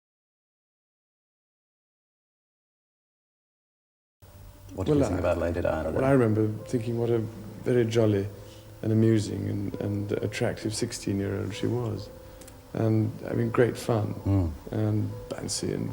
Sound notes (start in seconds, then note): 4.2 static hissing